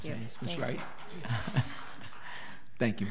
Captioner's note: applauding